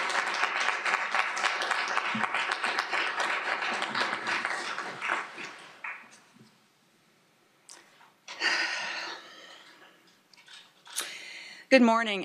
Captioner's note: applause